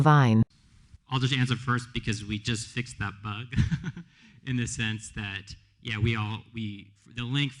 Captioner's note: laughs